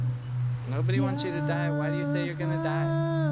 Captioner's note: voiceover